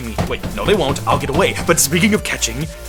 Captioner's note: door banging